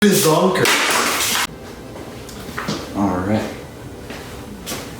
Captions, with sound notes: BIZONKERS! *Loud crash* Alright...